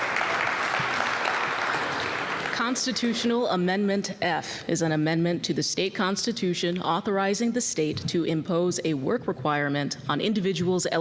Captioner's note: applause